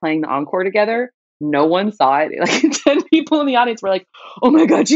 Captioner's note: laughter